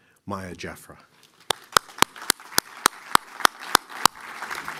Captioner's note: applause